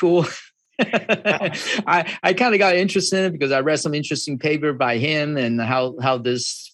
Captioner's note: laughs